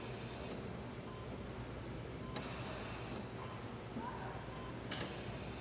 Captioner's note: machines beeping